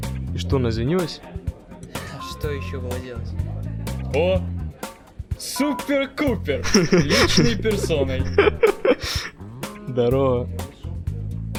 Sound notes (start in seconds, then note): 6.5 Jaden laughing